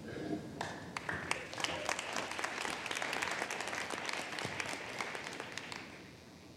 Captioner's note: applause